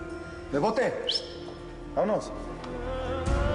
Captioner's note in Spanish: Silbido